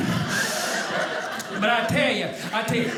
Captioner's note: audience laughing